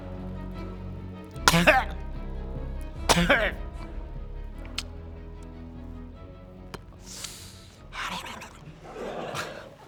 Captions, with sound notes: *cough* *cough* Helelelele *laughter*